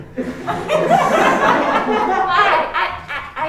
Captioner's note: crowd laughing